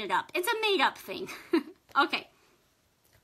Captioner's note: laughs